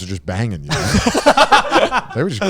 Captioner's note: everyone laughs